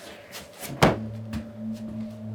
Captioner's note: slam